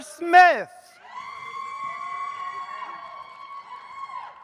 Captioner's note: audience cheers